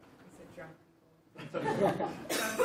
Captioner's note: cough